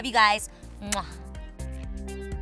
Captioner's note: soft upbeat music; lips smacking